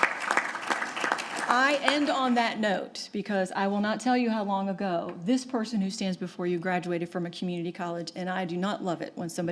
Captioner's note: applause